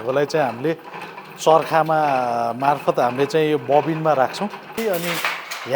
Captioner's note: spinning wheel